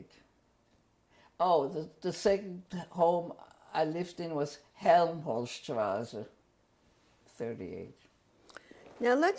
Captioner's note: german